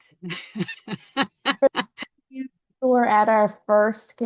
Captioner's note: laughing